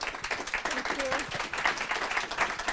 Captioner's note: audience applause